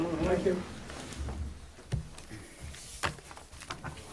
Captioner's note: people chattering